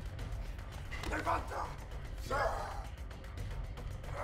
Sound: yelling

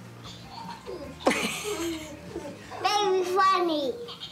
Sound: baby giggles; chuckling

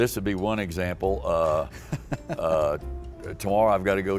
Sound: chuckles

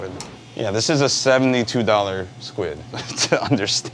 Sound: chuckles

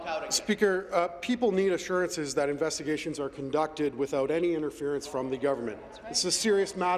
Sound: some Applause

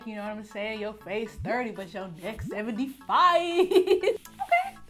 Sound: laughs

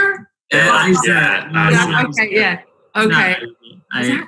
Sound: chatting

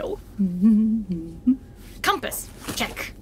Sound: Aurelia hums

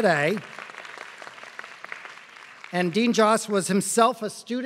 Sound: applause

